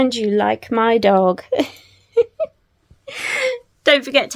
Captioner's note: laughs